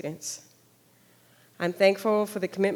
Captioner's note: none